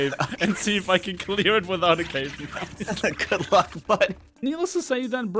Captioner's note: laughs